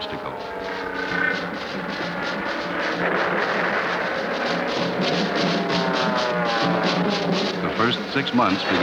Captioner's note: planes flying, explosions